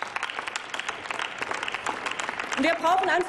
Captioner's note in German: Applaus